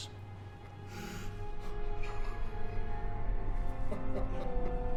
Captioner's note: sobbing